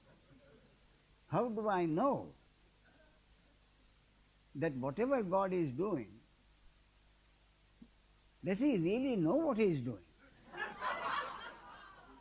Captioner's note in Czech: smích